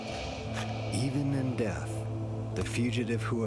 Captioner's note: voiceover